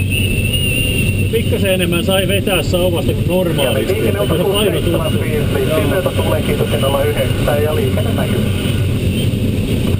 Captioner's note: radio